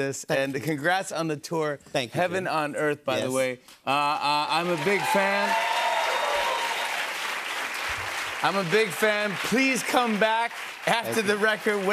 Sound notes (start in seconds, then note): 4.5 cheers and applause